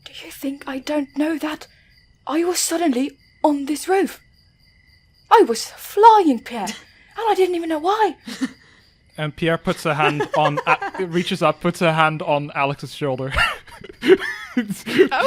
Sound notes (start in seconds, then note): 9.8 laughs; 14.0 chuckles